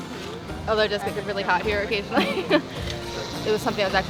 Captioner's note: laughter